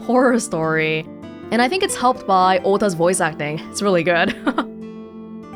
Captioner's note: chuckles